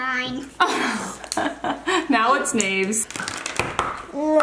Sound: laughs

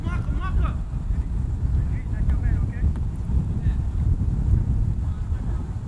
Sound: players talking and yelling

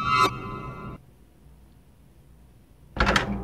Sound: silence

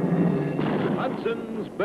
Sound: ominous music; cannon booming

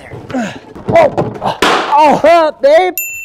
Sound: exclaims

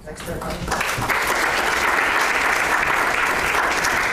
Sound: clapping

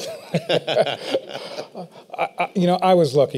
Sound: laughter

